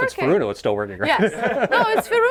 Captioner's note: laughs